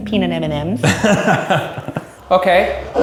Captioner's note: laughing